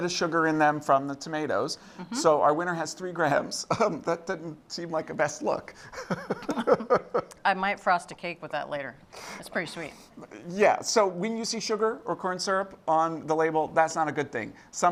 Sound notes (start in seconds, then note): 5.9 laughs